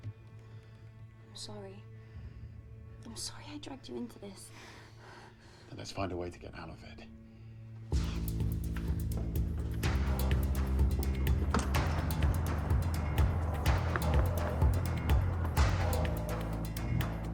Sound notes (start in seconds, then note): 8.1 upbeat dramatic music; 11.4 door clunking; 14.0 footsteps pattering